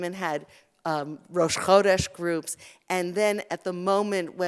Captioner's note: Hebrew